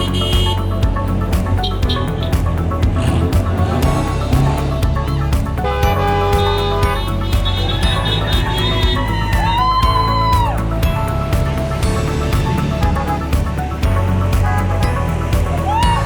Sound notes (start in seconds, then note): 0.0 horns honking; 2.9 engine revving; 5.6 horns honking; 8.3 crowd cheering; 13.2 horns honking